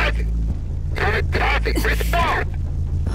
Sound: radio, distorted

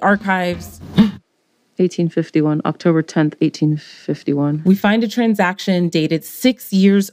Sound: gasps

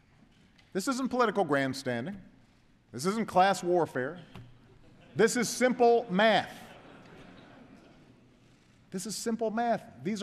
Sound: laughter

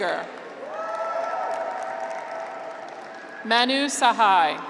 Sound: graduates cheer

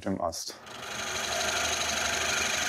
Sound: loud rattling

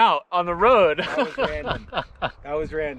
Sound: laughs

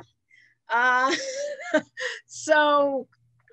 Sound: laughs

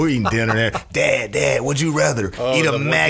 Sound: scattered laughs

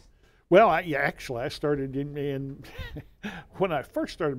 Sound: laughs

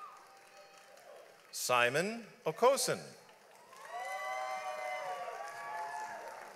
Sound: audience applauds

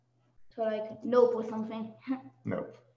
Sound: chuckles

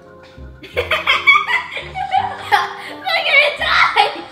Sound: laughs

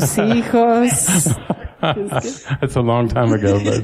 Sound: laughter

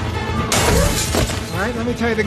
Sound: crash! smash!

